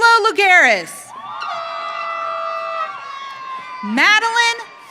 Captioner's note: audience cheering